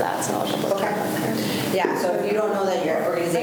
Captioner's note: faintly speaking